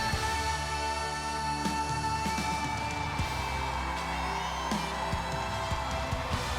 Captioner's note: applause